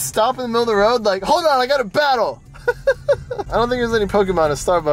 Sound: laughs

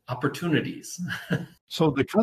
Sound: chuckles

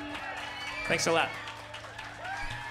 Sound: applause

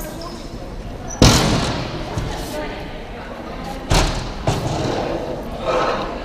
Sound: loud clanging

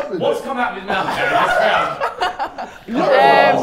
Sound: Sidemen laugh

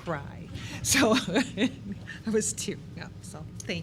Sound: laughing

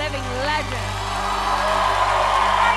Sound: cheers and applause

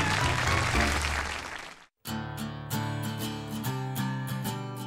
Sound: laughter and applause

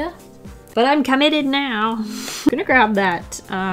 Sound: laughs

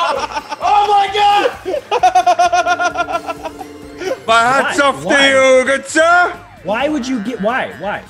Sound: laugh

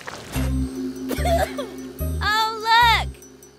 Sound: cough

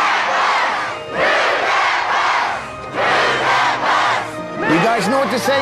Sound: crowd chanting "move the bus"

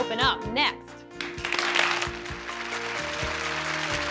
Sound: applauding

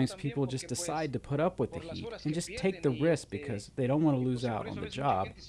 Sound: speaking Alternate Language

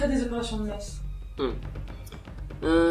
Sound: hum

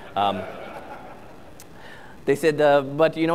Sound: audience laughs

